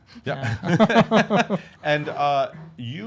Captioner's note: laugh